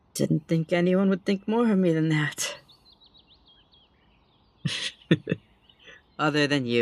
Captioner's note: chuckles